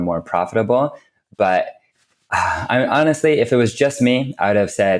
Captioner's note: sighs